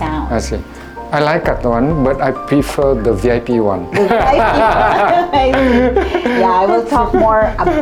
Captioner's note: laugh